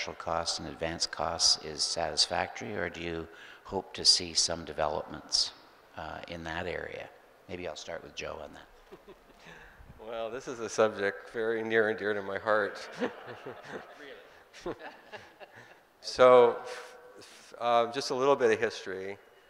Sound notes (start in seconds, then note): 12.6 group laughing